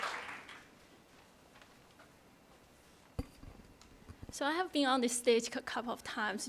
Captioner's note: applause